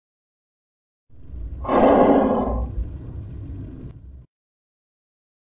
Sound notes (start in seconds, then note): 1.2 creepy breath